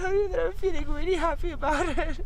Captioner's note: crying